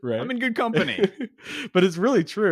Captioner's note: laughs